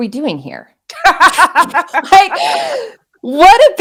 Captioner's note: laughing